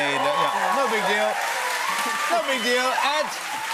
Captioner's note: cheers and applause